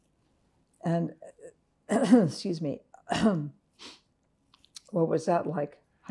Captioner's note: clears throat